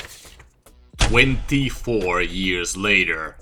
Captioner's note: notes rustling